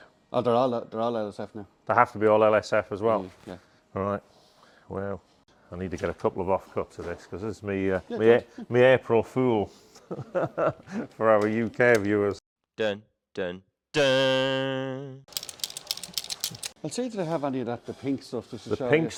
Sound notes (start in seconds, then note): 16.1 cutting noise